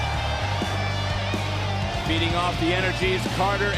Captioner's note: crowd cheers